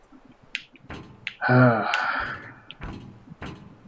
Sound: sighs

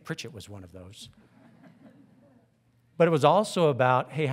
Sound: audience titters

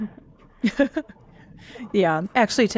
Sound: chuckles

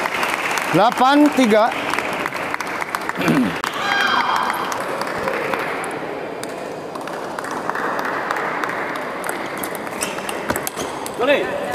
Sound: applause

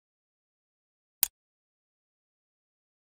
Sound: sound of click

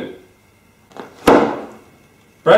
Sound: sound of box being placed down

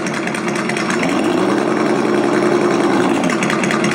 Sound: engine idling

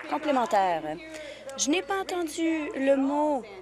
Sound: applause

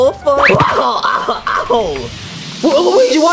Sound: Luigi whimpers loudly; air quivers

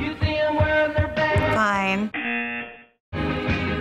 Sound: buzzer

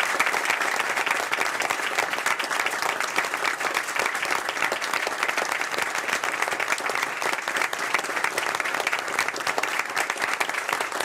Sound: applause

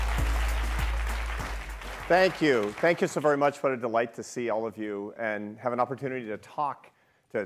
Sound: applause

